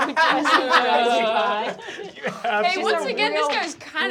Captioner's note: laughter